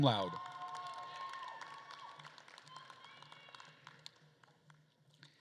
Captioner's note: attendees cheering and applauding